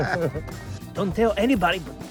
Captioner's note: both laughing